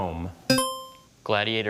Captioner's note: buzzer chimes